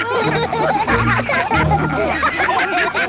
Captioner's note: all laugh